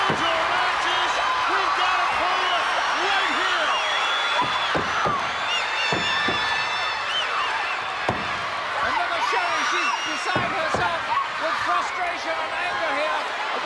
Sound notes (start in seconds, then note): 5.7 applause